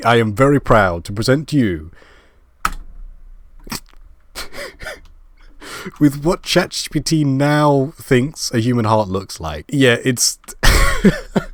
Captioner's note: laugh